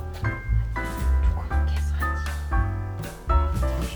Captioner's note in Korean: 소근